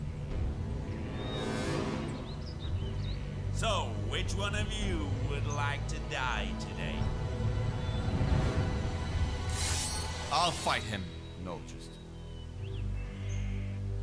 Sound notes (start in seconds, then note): 9.5 sword unsheathing